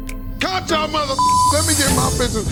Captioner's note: beep